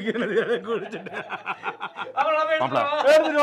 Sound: laughs

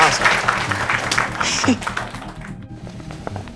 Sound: hands slapping; laughs

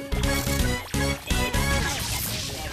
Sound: whirring; boom!

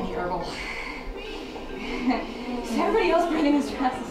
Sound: distorted voice

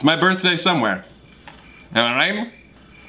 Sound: crickets chirping

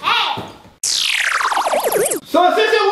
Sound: silly noise

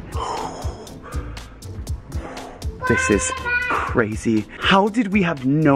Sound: sighs

